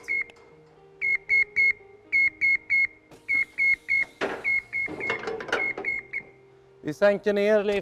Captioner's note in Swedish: beep-ljud